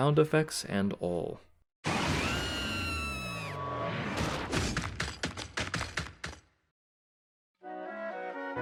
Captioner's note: Kamek screams, chomping noises